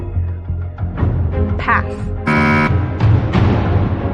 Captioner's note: buzzer sounds